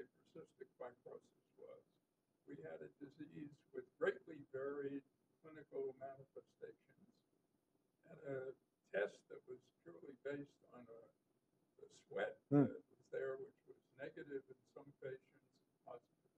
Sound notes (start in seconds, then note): 1.4 off microphone